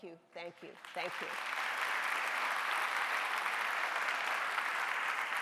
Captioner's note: audience applauding